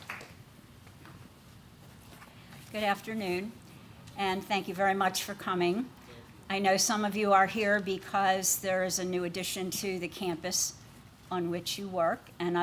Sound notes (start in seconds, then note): 1.7 applause